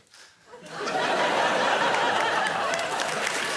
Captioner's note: laughter